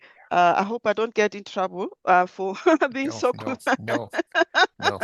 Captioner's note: laughs